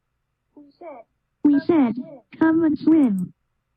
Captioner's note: computer voice